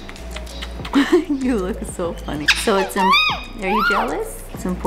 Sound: laughs

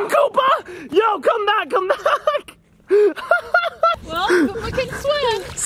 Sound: laughter

